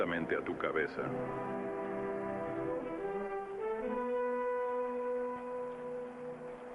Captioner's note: rain pattering; suspenseful music